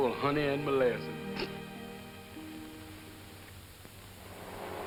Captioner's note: snickers